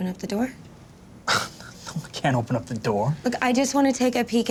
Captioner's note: scoffs